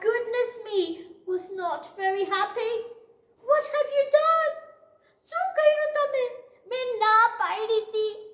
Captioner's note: speaks in Gujarati